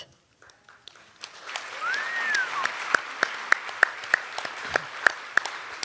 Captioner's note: cheers and applause